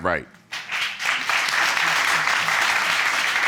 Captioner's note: audience applause